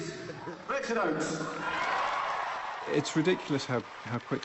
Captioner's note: cheering and applause